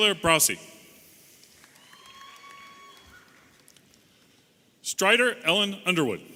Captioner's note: audience applauding and cheering